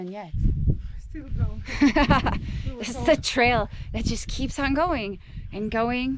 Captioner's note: laughing